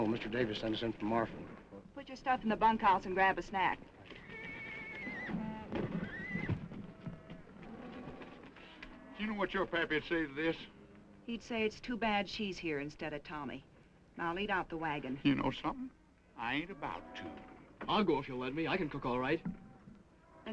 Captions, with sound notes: Mr. Davis sent them to Marfa. - Put your stuff in the bunkhouse and grab a sack. (horse neighing) (horse hooves clopping) (horse neighing) - You know what your pappy would say to this? - He'd say, it's too bad she's here instead of Tommy. Now, lead out the wagons. - You know something? I ain't about to. - I'll go if you'll let me. I can cook all right.